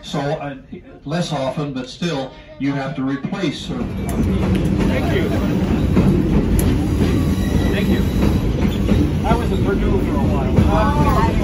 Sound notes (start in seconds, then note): 5.4 stamping tickets; 9.5 wheels screech